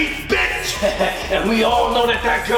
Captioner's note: laughs